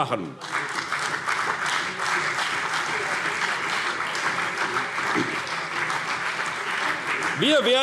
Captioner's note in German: Beifall CDU - Lebhafte Zurufe SPD